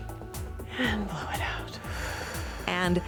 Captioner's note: inhales; exhales